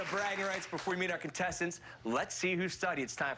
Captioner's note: cheers and applause